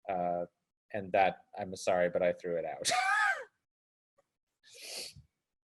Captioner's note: laughs